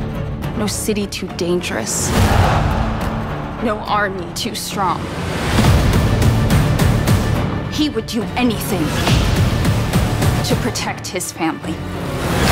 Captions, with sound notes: No city too dangerous. [ CROWD SHOUTS] No army too strong. He would do anything... ...to protect his family.